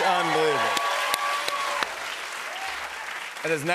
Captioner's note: cheers and applause